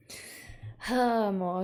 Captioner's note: intake of breath